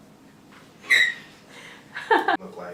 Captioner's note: laughter